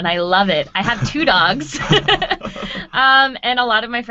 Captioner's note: laughing